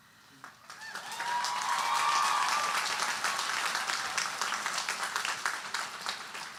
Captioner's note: audience cheering and applauding